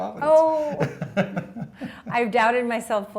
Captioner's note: laughs